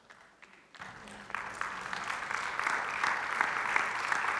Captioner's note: congregation applauds